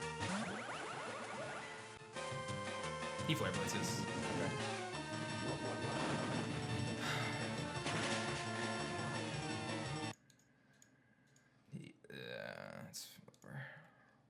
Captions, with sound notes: He Flare Blitzes. Okay. (scoffs)